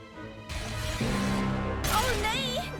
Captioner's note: glitching